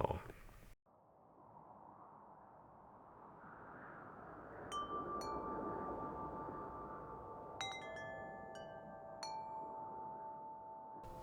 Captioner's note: wind, wind chimes